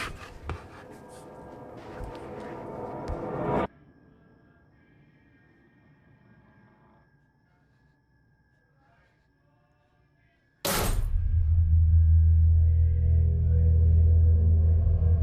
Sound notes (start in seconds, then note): 0.4 soft tense music; 10.2 metal clanking; 11.1 soft tense music